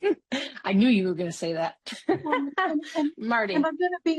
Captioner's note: laughs